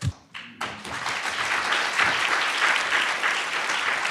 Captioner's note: audience applauds